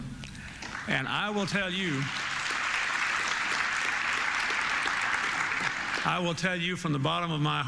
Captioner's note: applause